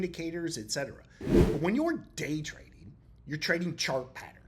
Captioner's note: text whooshing